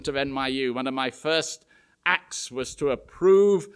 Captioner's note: none